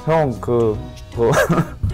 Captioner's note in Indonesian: tertawa